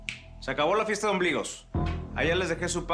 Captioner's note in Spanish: Chasquido de dedos